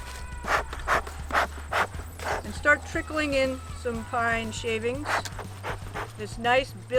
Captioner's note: puffing; puffing